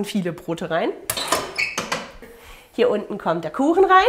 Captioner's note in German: Knarzen